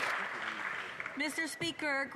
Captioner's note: cheers & Applause